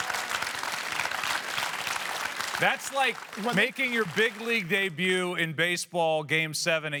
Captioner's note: cheers and applause